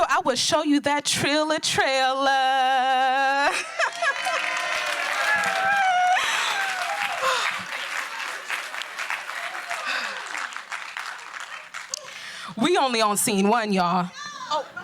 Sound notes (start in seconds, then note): 4.4 laughing; 5.7 applause